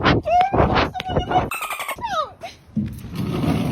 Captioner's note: birds chirping